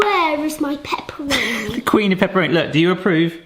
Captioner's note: chuckles